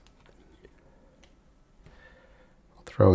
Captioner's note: silence